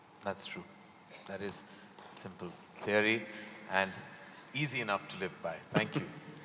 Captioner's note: Sadhguru laughs